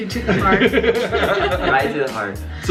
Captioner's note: all laugh